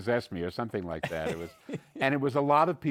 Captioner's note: chuckles